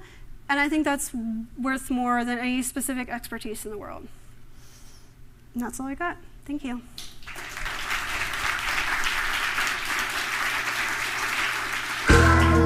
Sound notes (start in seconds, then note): 7.0 applause; 12.0 funky music